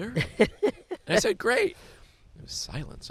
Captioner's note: laughs